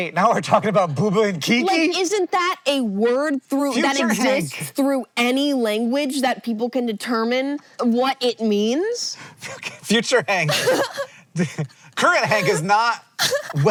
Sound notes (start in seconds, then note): 10.5 laughs; 10.5 wheeze-laughging